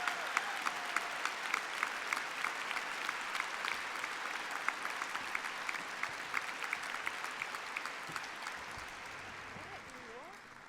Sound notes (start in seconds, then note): 5.4 applause